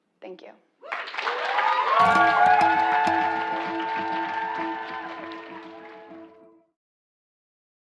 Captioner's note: applause